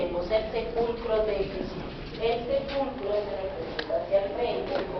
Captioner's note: announcer speaking Spanish